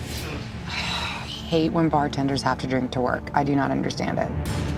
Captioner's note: squealing; sighs